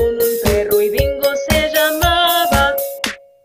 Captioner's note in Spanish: clap